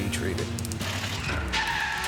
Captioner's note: tires screeching